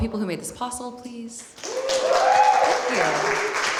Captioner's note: applause